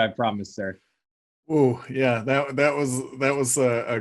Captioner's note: stuttering